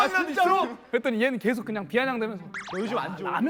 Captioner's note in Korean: 비아냥